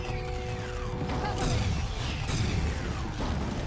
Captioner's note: sirens